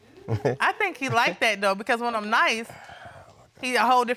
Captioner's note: audience chuckling